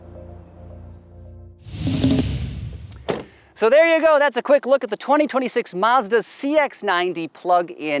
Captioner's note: car door closing